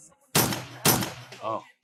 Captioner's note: gun Shots